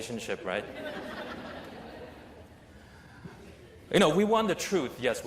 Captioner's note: laughter